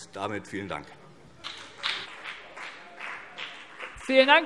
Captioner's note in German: Beifall BÜNDNIS 90/DIE GRÜNEN